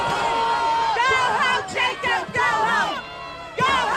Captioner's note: crowd chanting